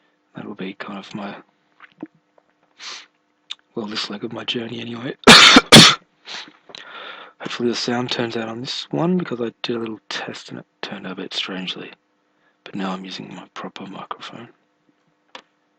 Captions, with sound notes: And it'll be kind of my [swallowing sound] Well, this leg of my journey, anyway [coughing] Hopefully the sound turns out on this one Because I did a little test and it turned out a bit strangely But now I'm using my proper microphone